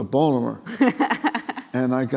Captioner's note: laughing